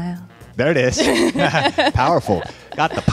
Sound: both laugh

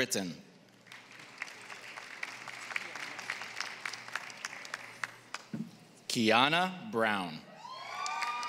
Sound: applause; applause

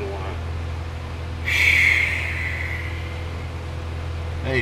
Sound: sigh of relief

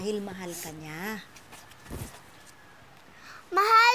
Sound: sniffling

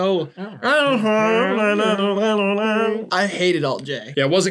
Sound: imitates his timbre

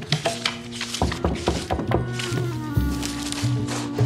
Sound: knock on door

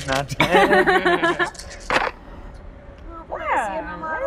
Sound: laughter

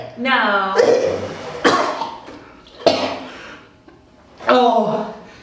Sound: coughs and splutters

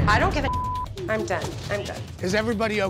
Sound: beep

